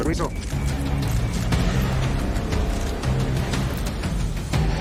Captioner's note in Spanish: Clic de las cámaras